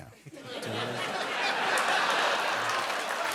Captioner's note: laughter